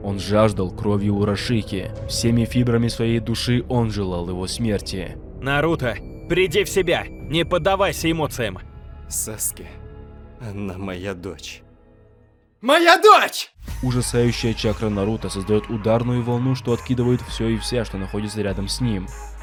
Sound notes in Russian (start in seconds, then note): 11.7 сильным криком